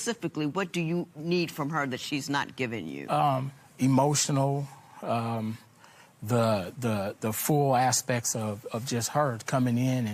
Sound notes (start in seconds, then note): none